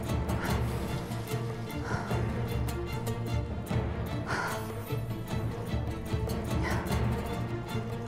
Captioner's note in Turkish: Müzik - Gerilim; Nefes sesi